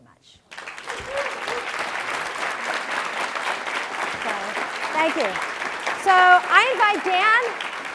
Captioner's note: applause